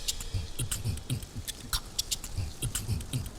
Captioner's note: beat boxing